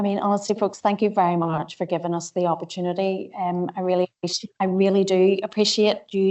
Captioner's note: audio distorts 01.00.22